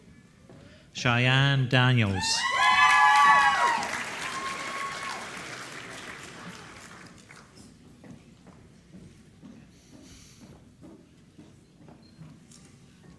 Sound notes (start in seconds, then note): 2.5 applause